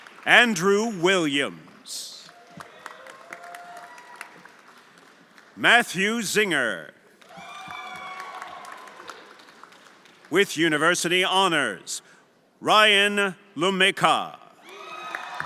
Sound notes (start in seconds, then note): 0.0 everyone applauding and cheering; 2.0 everyone applauding and cheering; 7.2 everyone applauding cheering